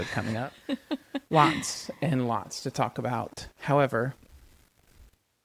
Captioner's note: laughs